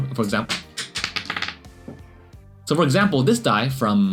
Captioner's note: low thud